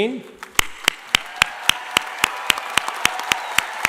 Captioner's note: clapping